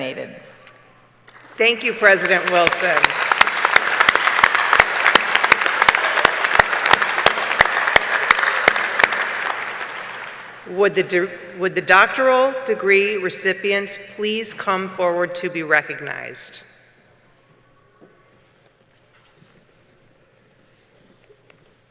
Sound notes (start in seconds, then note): 7.2 applause